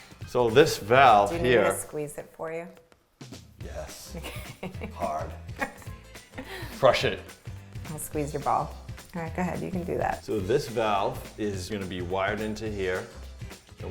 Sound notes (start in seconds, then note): 5.5 laughing